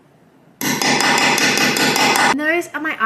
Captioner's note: hammering sounds